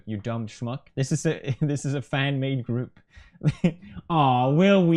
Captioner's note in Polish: chuckles